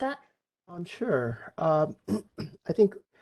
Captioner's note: clears throat